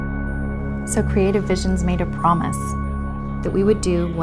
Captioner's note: woman's Voice